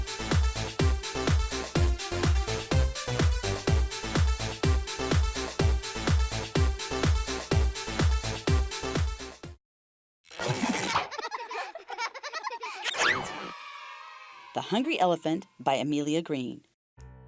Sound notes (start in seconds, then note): 10.6 children laughing; 12.7 children cheering